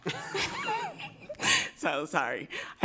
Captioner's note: directors laughing